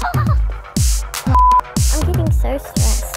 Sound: beep

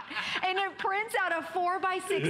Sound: laughter

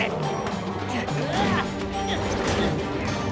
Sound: grunting

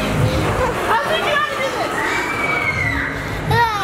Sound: kids screaming

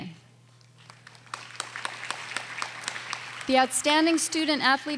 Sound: audience applauding

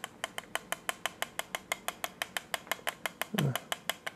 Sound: tapping sound

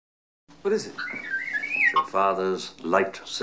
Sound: R2 beeps

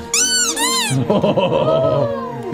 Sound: squeaky toy squeaks

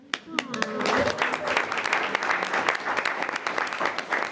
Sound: everyone applauds

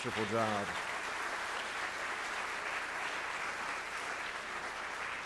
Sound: audience applauding

